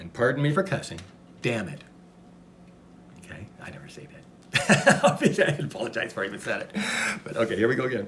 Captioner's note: laughs